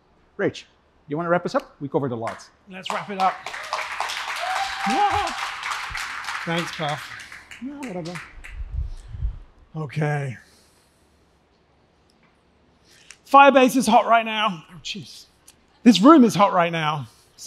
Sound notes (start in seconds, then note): 2.8 applause; 4.6 cheering